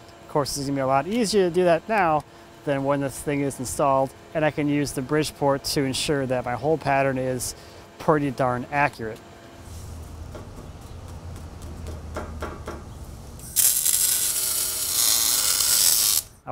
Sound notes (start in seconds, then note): 10.2 light tapping; 13.7 sharp buzzing